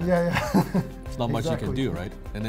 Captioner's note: chuckles